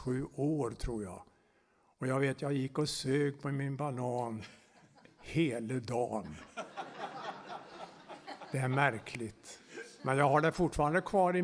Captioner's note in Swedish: skratt